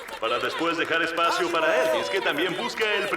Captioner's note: audience applauds